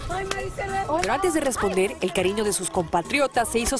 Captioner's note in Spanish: aplausos